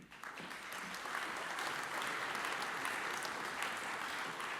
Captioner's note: audience applauds